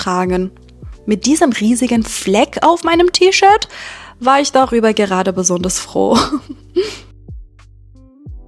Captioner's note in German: gelächter